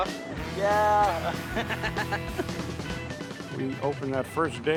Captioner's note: laughs